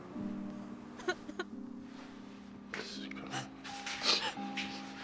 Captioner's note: Maddie crying